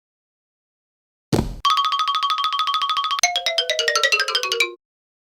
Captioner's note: brett collapses on floor, followed by comical xylophone riff